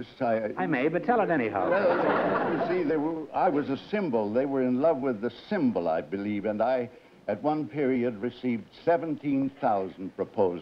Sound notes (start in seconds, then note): 1.6 laughter